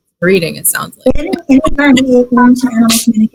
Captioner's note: laughs